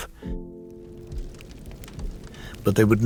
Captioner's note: flames crackling